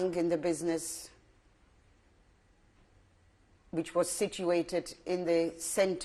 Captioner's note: pauses for 3 seconds